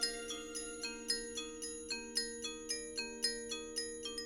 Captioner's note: none